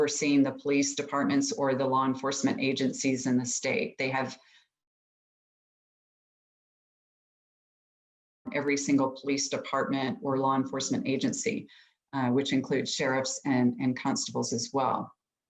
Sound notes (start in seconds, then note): 5.6 audio cuts out